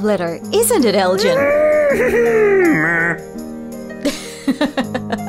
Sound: half-bull-half-horse noises

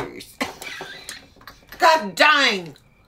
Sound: laughs

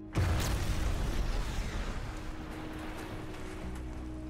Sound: car exploding

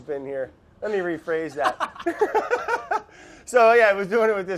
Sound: both laugh

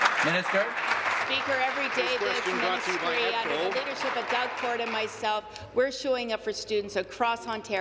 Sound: applause

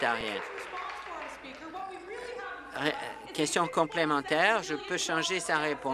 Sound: applause

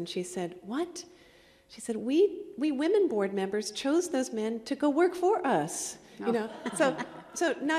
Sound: laughter

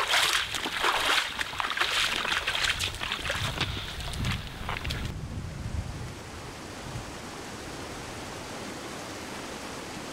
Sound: water whirling

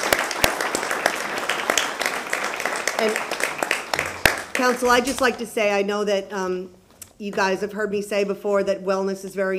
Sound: applause

